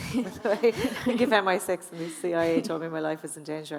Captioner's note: audience laughing